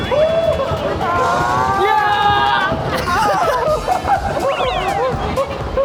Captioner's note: giggles